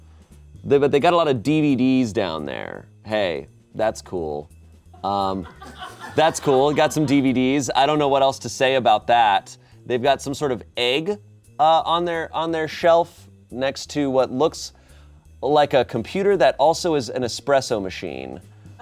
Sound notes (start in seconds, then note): 5.4 audience laughing